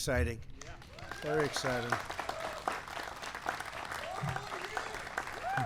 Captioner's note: applause